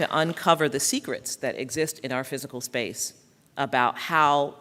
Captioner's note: applause